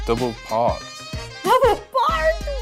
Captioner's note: laughs